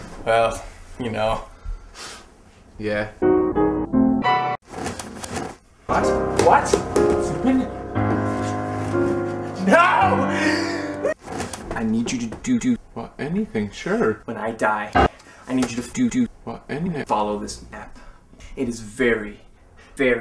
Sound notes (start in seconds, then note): 3.2 pitch shifted crap; 10.3 deep breath; 14.9 single low piano note